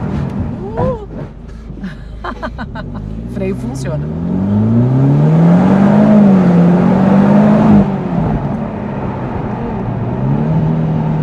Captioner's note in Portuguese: risos